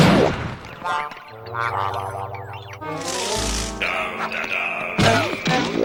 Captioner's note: crashing